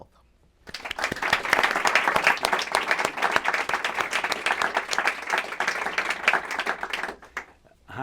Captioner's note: applause